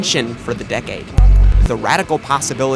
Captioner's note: glitch